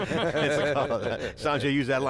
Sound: laughing

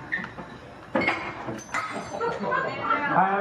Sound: glass Breaks

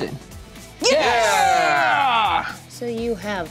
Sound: cheering

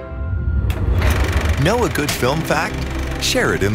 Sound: film rolling

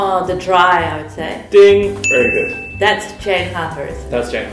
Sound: ding!

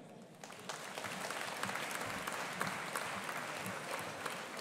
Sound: audience applauding

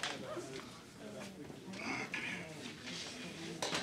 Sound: people talking

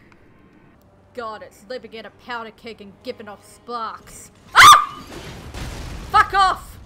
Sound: yelp

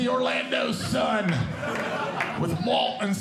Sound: audience Laughing

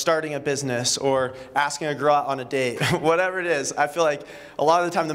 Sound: laughter

